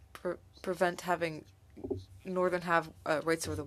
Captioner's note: speaking French